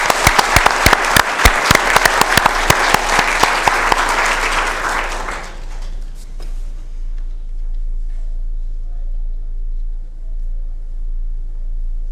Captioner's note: applause